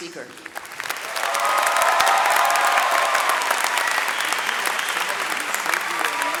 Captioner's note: audience cheering and clapping